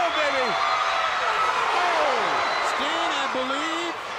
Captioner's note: crowd cheering